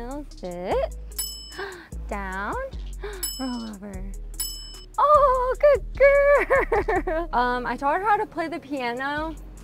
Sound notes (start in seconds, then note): 1.1 bell dings; 4.3 bell dings